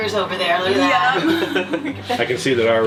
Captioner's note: laughing